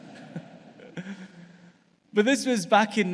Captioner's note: audience laughs